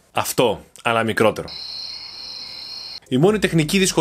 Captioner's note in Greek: γρύλοι